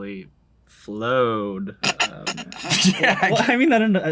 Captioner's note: laughs